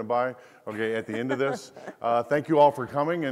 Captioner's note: laughs